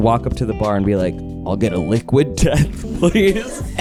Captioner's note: chuckling